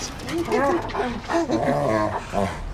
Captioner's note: excited dog barking